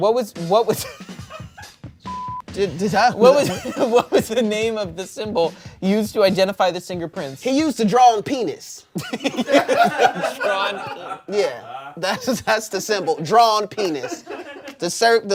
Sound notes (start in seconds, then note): 1.3 laughs; 2.0 beep; 9.0 everyone laughs